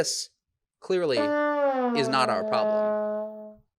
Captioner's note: horn blows